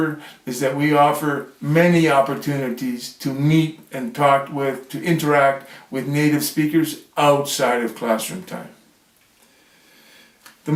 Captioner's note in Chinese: 英语